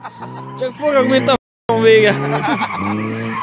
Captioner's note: crazy hungarian swearing